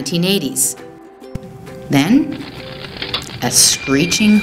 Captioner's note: sound effect: the film projection above breaks up, film flapping on reel